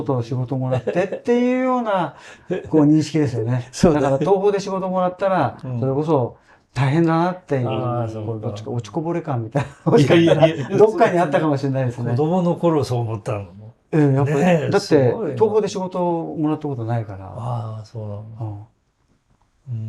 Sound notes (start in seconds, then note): 9.7 laughs